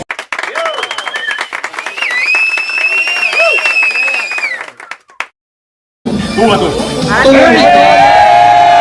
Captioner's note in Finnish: Aplodeja